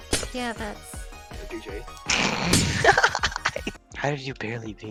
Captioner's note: laughing